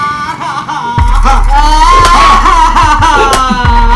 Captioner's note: Mari crying